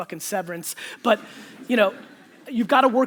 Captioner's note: audience laughter